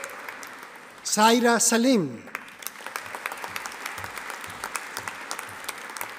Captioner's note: audience applauding